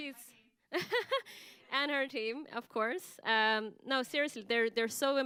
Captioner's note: laughs